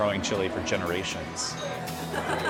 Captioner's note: laughter